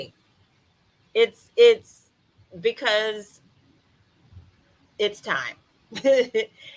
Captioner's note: chuckles